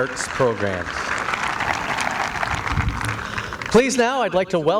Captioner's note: applause